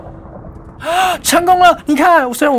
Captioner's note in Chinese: 吸氣